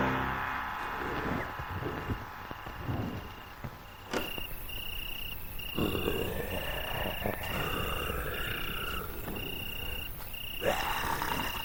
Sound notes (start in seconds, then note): 4.0 crickets chirping; 4.9 zombies growling